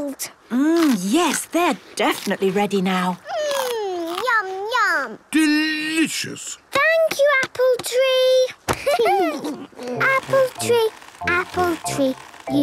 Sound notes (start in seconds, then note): 8.7 laughter